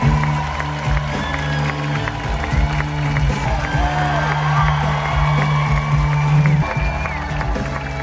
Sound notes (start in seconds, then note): 1.6 crowd cheers; 1.6 upbeat music